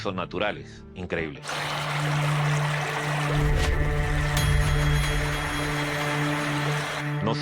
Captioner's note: water flowing